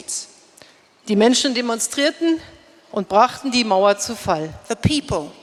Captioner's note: speaking in German